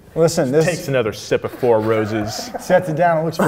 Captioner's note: laughs